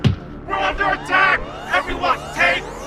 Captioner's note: alarm sounds